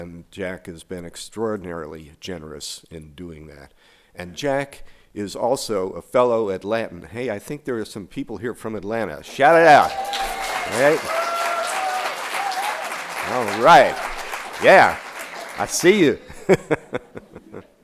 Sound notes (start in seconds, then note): 12.3 applause